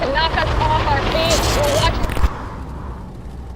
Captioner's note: distorted voice